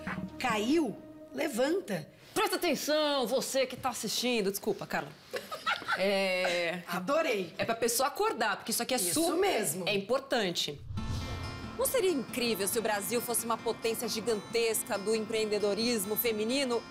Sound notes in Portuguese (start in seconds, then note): 2.2 voz alta; 5.3 rindo